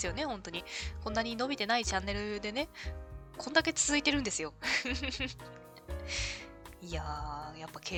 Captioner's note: laughs